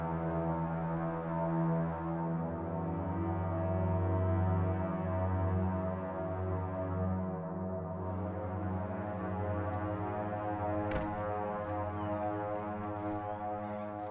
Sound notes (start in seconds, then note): 0.1 solemn orchestral music continues; 10.9 door clicking